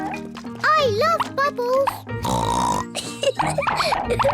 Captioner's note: oinks and giggles